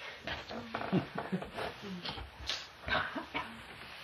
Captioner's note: laughs